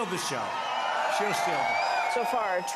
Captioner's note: applause